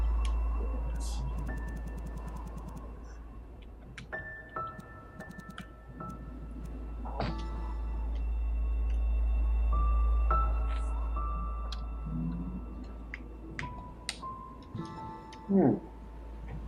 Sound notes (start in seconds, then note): none